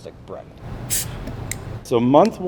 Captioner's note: bottle hisses upon opening